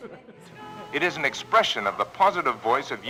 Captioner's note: radio Announcer